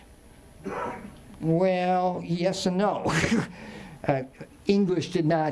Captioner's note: chuckles